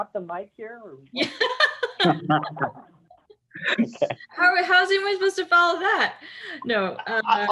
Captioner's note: laugh